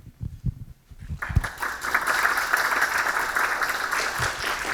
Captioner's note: audience clapping